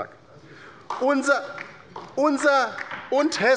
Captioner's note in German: Beifall bei der LINKEN